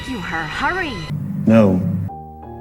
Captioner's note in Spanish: robot